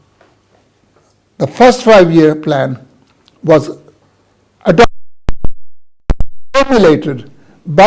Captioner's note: audio breaks up